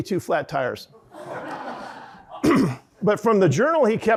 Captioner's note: audience laughing